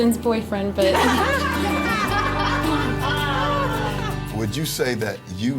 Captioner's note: laughing